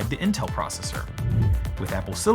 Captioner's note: air whooshing